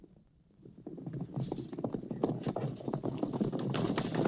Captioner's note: horses galloping